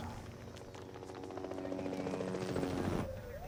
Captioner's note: helicopter blades whir